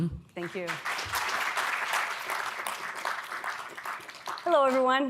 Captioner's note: audience claps